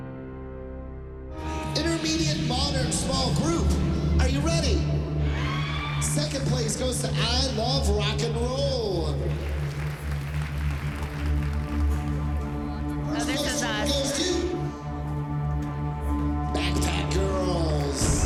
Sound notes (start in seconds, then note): 5.2 cheering; 9.6 cheering